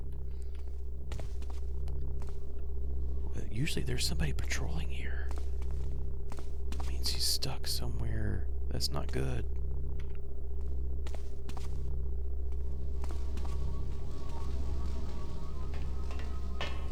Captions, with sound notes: [whispers] Usually there's somebody patrolling here. [whispers] That means he's stuck somewhere. That's not good.